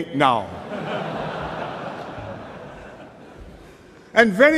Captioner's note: laughter